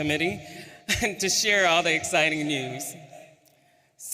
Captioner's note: chuckles